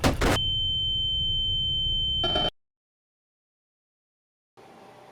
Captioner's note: high pitched tone